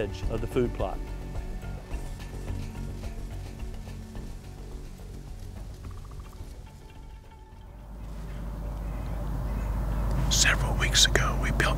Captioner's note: whispering